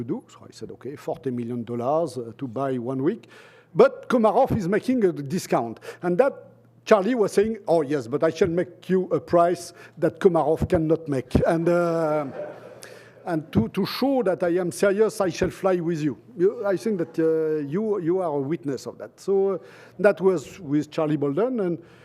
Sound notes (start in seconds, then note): 12.0 laughter